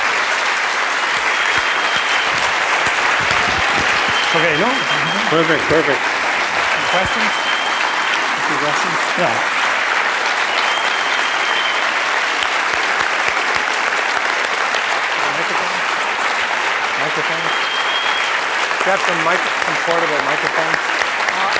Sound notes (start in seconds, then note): 9.2 applause